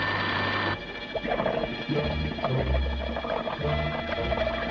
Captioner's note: water gurgles